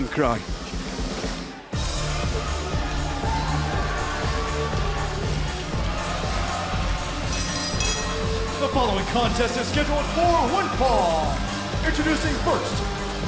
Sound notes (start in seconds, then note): 3.2 bell ringing